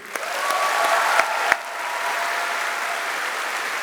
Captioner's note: applause